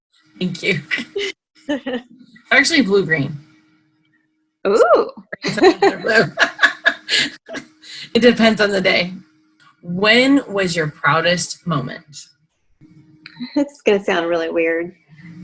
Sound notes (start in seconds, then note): 5.3 chuckling